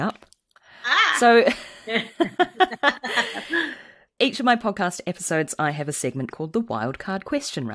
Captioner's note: laughs